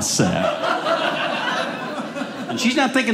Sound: audience laughing

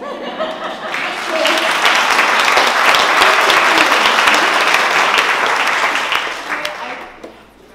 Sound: applause

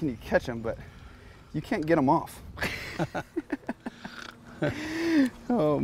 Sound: both laughing

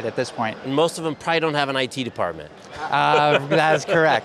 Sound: laughs

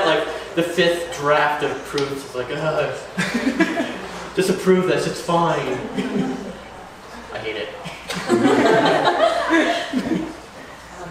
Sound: laughter

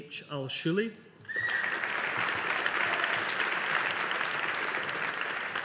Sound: audience applauding

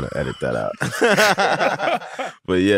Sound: laughter

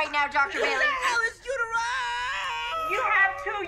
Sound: screams

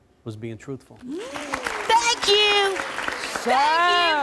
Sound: audience clapping

